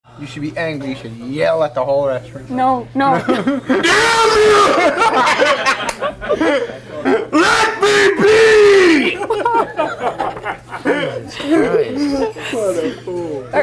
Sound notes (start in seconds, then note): 3.2 yelling; 4.1 everyone laughs; 7.0 yelling